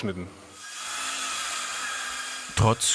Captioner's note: scratching sound of cutting